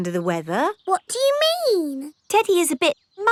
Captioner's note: in normal voice